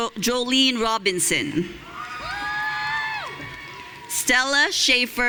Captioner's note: audience cheering